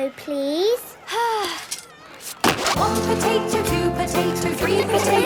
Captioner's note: Belinda sighing; laughter